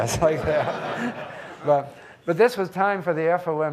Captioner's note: audience laughing